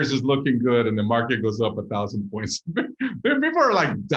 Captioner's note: laughing